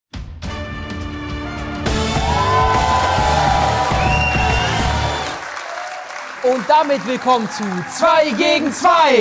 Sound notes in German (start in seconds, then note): 0.2 Dynamische Musik; 1.2 Jubel, Applaus